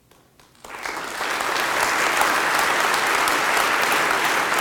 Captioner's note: applause